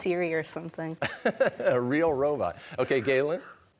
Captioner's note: laughing